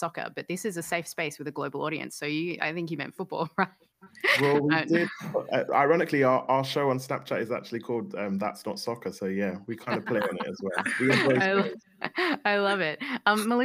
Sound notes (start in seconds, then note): 4.2 laughs; 9.8 laughter